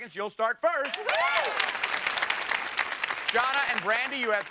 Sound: applause

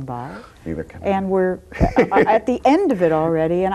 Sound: laughs

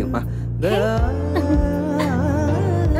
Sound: chuckles

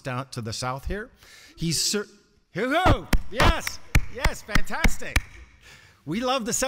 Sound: applause

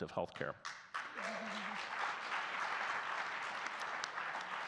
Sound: audience clapping

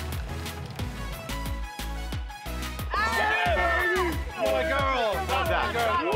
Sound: all cheering

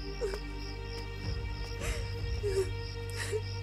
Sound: sobs

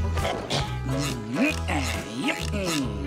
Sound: grunting

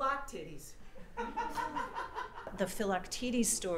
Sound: laughter

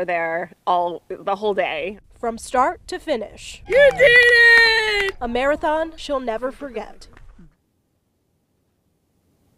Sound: cheering

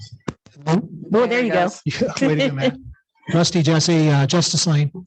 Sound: laughs

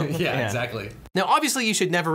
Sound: laughing

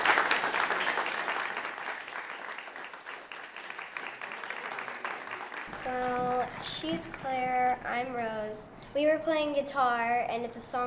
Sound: applause

